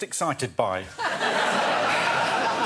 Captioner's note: audience laughing